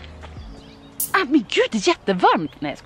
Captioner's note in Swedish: fräsande ljud